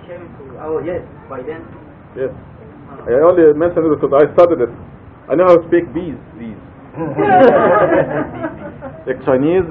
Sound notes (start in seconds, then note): 6.9 Gülüşmeler